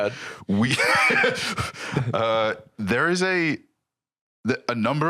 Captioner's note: laughs